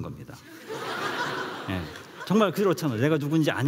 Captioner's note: laughs